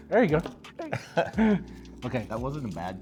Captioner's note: laughs